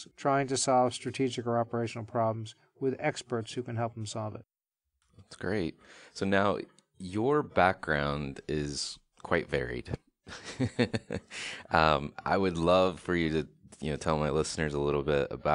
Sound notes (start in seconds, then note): 9.4 laughing